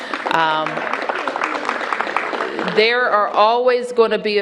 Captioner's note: applause